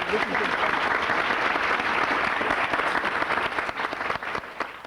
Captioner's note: applause